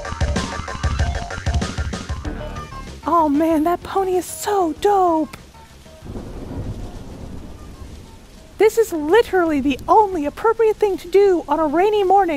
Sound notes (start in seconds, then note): 6.0 thunder